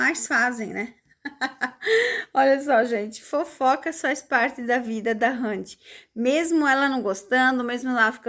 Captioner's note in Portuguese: risadas